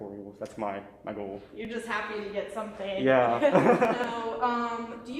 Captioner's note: laughs